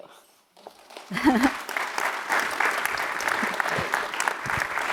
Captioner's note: applause